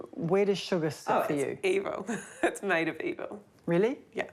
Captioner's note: chuckles